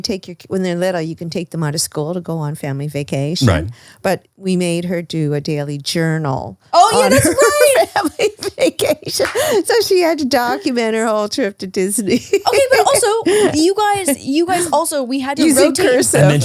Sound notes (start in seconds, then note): 8.4 laughs; 9.1 claps hands